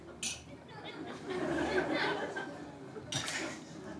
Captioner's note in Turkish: Kahkaha sesleri